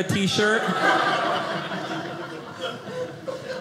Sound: audience laughing

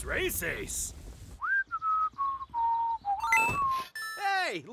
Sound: whistling patiently

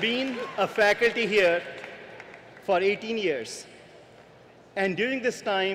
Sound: cheering and applause

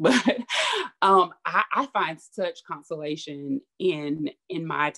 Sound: laughs

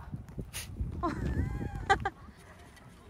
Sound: laughs

